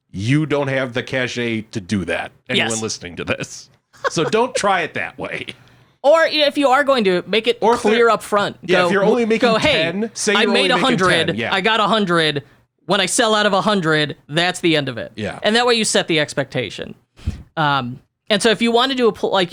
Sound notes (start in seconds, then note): 4.0 laughs